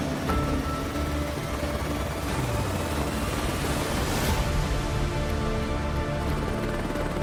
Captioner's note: blades whirring